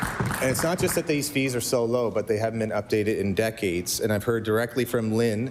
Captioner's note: applause